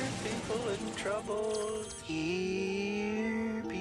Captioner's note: whispering